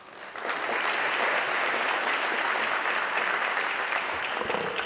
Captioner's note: audience clapping